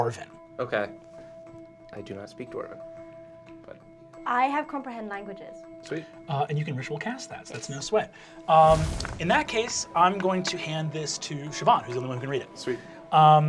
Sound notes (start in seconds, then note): 8.6 blasting sound effect; 8.9 eerie music